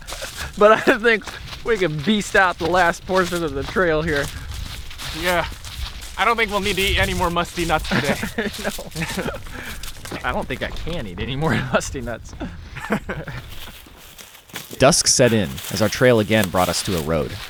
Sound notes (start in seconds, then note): 0.1 both laughing; 8.5 laughs